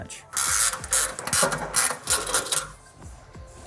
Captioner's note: ratchet clicking; light music